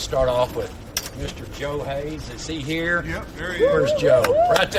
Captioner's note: audience speaking